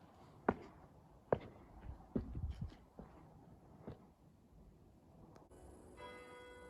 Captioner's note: footsteps; clock tower chimes